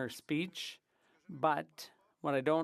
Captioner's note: speaking French